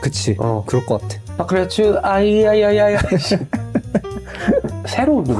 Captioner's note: laugh